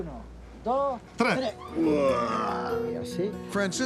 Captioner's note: groaning